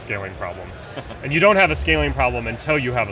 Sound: laughing

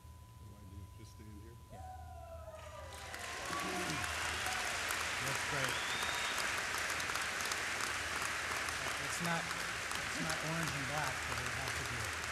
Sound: applause and inaudible background talking

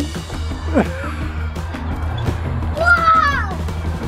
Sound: laughs

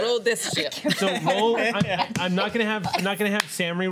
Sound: laughter

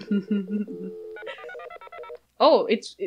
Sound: phone dialing noises

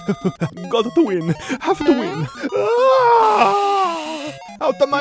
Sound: Mario gasping; energetic music; screams

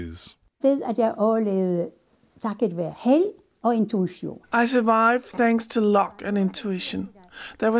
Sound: through translator

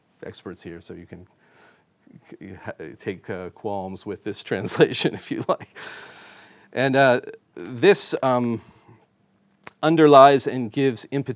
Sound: chuckling

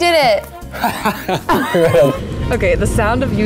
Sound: laughing

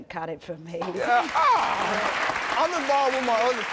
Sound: audience applauding, laughing

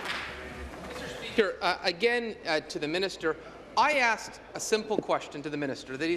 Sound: applause

